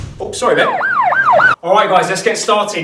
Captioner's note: banging; sirens blaring